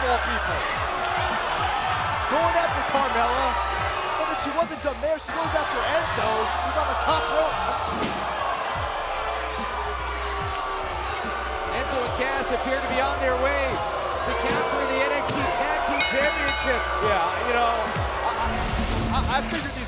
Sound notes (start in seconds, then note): 8.0 crowd cheering; 15.8 bell ringing